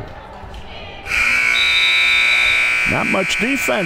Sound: buzzer

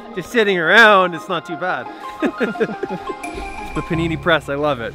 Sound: laughs

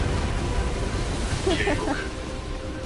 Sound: laughs

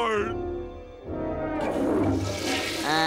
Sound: toilet flushing

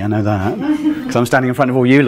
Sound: woman laughs

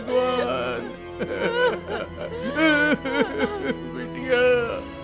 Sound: crying

